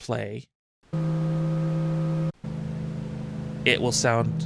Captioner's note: engine sound